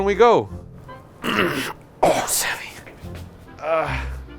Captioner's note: pained grunt